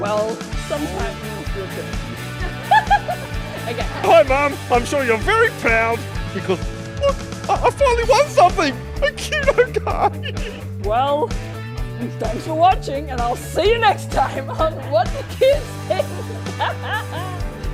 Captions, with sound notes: Well, some times. (laughing) Okay. - Hi mom. I'm sure you're very proud because, look, I finally won something, a QNO card. - Well, thanks for watching and I'll see you next time on "What Do Kids Think?" (laughing)